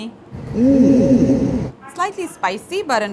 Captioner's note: low pitch echoes